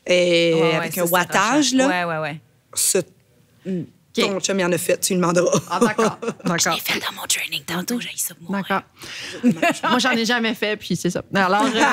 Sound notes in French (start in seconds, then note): 6.3 en chuchotant